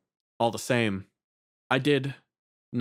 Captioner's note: none